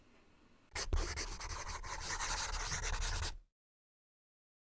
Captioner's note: scribbling